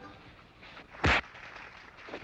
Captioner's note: thud